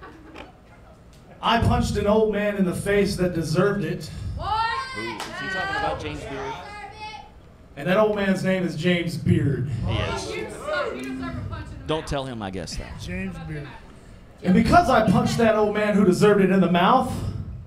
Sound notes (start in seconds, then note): 4.4 crowd yells angrily